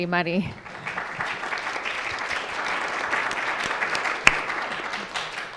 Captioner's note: audience applauding